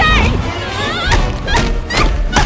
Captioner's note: shouting, groaning